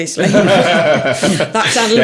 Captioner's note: all laughing